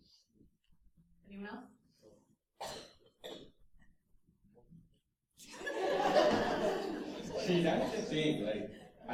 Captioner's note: laughter